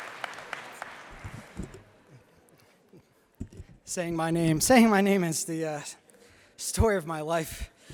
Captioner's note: applause